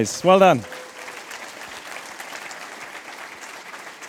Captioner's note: applause